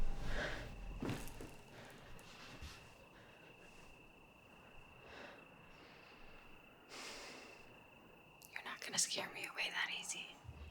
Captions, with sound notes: (Claire breathes heavily) You're not gonna scare me away that easy.